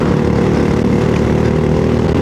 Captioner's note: engine noise